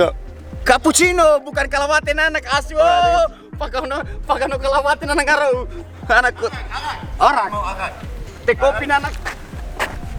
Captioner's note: foreign language